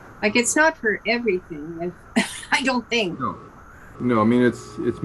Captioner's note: laughing